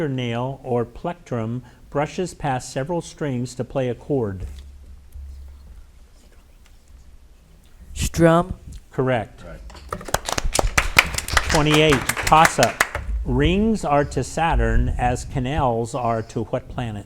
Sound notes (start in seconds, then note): 9.9 audience applauds